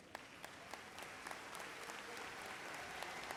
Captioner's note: applause